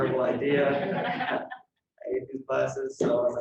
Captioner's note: laughter